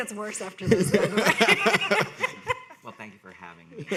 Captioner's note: people laughing